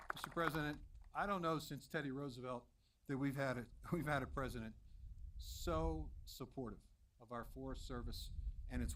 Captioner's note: applause